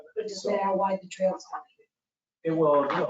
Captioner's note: speaking faintly